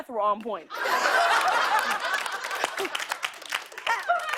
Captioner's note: laughter and applause